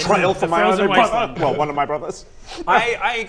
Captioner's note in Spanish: llora